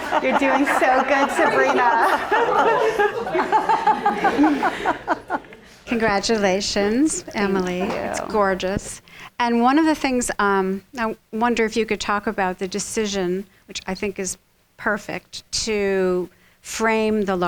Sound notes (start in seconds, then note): 2.6 laughs; 3.2 audience laughing